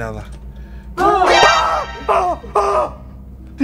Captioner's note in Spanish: gritan; grita